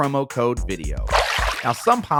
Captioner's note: water splashing